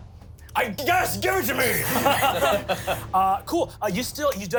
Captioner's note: everyone laughs